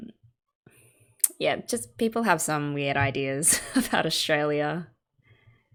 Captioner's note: laughs